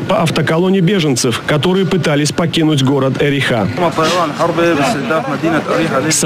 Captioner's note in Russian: Речь по-сирийски